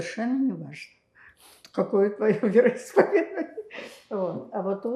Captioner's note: laughing